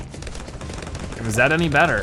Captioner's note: weapons firing